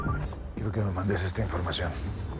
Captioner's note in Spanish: Suena el celular